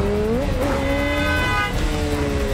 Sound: honking

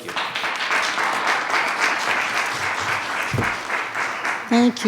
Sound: attendees clapping

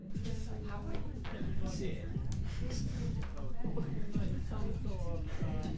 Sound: laughter/indistinct chatter

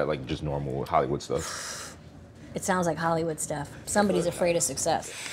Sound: exhales

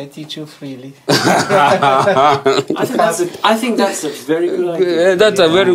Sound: all laugh

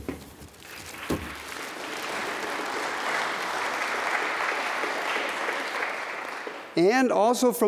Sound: applause

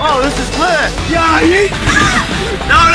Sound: screaming

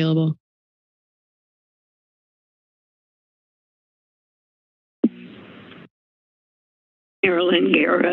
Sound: silence

